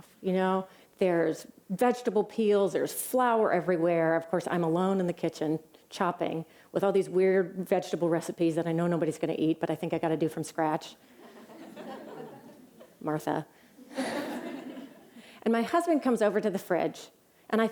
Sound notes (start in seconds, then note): 11.2 laughter